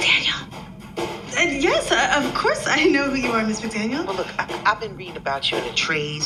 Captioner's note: speaking into the receiver